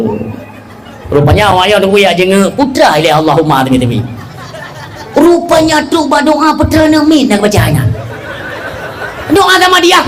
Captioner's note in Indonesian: tertawa